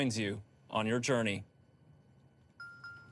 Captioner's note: Pixy dings